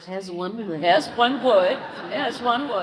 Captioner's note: congregation laughs